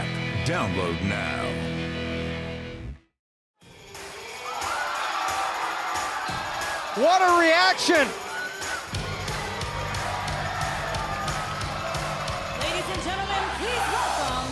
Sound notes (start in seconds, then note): 5.0 cheers & applause